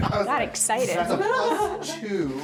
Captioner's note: laughing